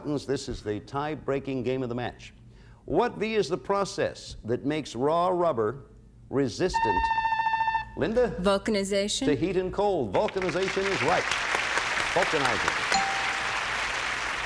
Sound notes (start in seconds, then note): 7.0 buzzer sounds; 12.9 cheers and applause; 12.9 bell rings